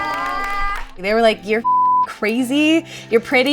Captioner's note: beep